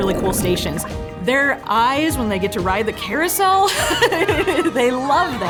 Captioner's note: laughing